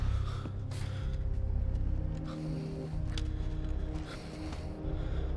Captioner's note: breathing heavily